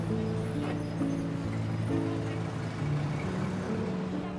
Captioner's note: busy street sound